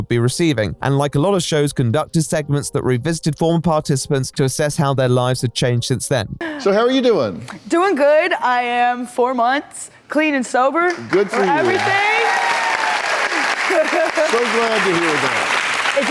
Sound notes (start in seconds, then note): 10.9 audience applause